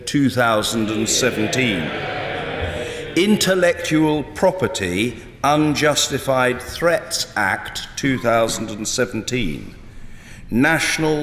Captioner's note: Cheers from Members of the House of Commons